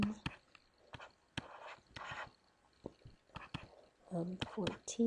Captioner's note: instructor typing